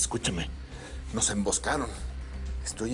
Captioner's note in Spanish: En voz baja